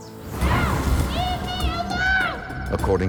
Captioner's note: whooshing